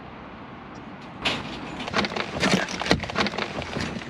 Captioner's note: sound of trap door closing